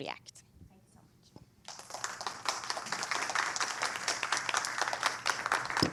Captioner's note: applause